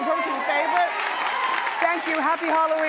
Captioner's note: cheering